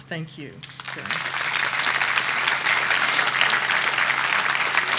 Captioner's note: audience applauding